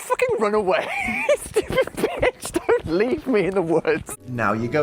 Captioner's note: laughing